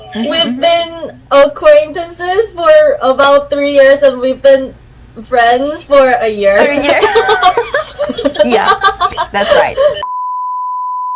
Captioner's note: laughing